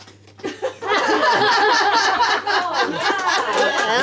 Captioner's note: laughing